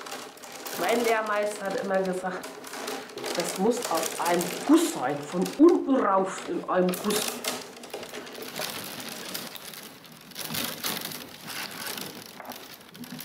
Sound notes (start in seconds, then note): 3.0 with a disguised voice and accent; 10.4 crackling and cracking of the willows